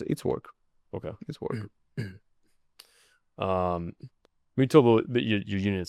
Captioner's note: clears throat